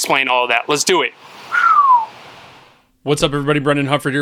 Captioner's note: whistle